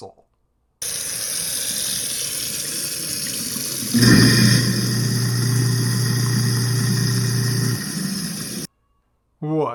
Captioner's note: disposal noises